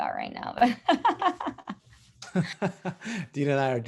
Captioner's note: laugh